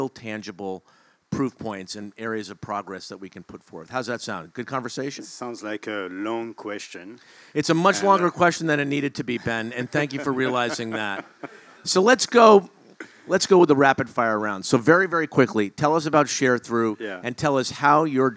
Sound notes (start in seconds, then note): 9.3 laugh